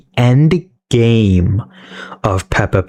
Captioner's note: inhales Oxygen